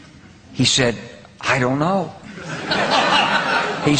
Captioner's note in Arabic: هههههههههههههه